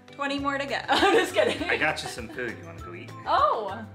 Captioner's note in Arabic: يضحك